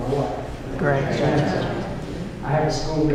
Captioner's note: affirming murmurs